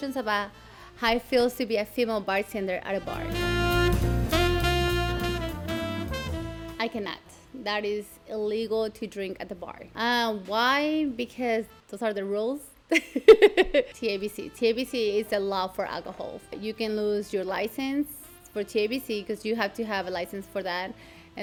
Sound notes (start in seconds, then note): 2.9 sax heavy jazz; 13.0 laughing